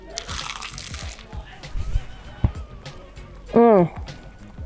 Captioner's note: crunching sounds